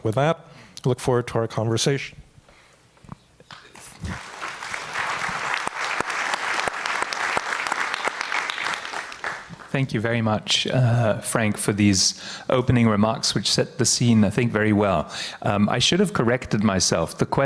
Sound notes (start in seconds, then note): 4.0 audience applauds